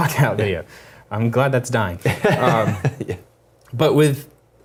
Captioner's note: laugh